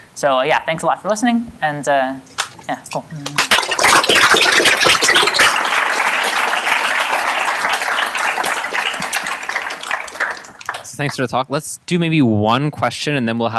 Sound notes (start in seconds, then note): 3.3 applause